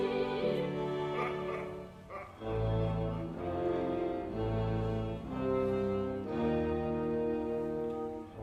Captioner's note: Caterpillar laughs derisively